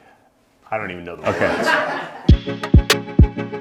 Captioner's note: group LAUGHING